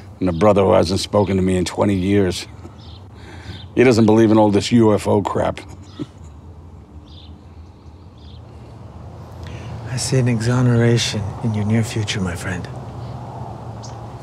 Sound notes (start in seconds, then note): 5.5 chuckling